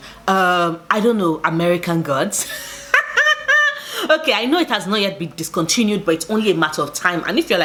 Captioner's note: laughs